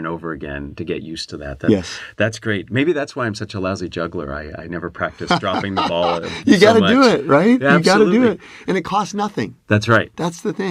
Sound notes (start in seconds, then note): 5.2 laugh